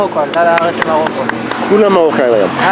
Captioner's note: applause